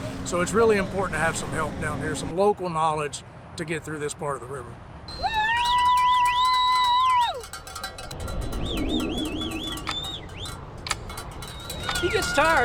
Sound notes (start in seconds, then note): 5.2 cheering; 8.9 clock ticking